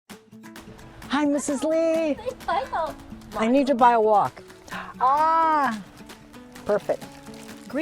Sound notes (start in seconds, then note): 0.5 upbeat music; 2.6 speaking foreign language